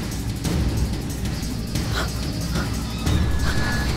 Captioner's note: breathing heavily